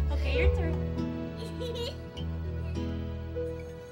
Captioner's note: laughs